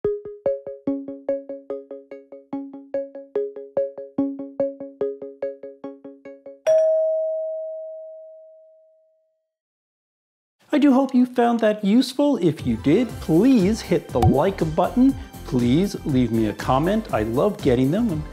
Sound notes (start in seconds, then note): 0.2 inquisitive electronic music; 6.6 bell dings